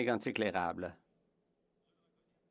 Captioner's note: speaking French